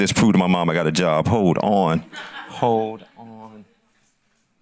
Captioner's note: audience laughs